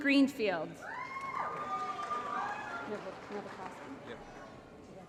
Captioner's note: applause & Cheering